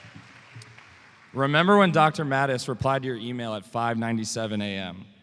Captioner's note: applause